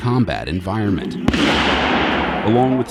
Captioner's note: explosion